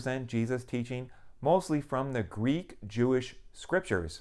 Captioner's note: none